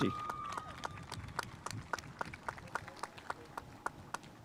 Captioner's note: spectators applauding